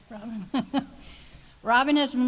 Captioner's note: laughs